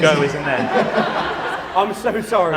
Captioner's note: laughter